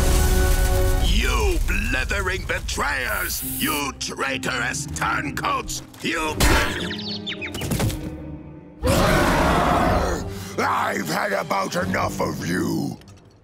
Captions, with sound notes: You blithering betrayers! You traitorous turncoats! You- [thudding] [roaring] I've had about enough of you.